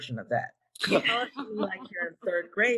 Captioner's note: laughing